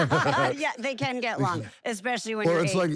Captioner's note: laugh